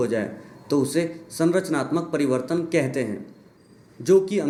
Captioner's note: Hindi